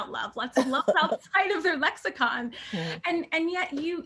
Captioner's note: laughter